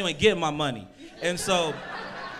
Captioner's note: crowd laughs